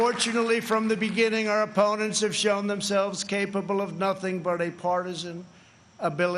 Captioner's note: applause